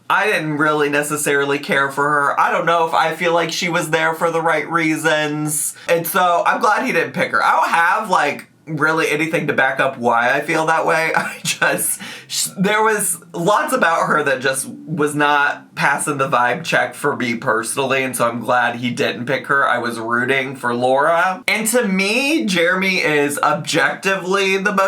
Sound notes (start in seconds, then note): 11.0 chuckling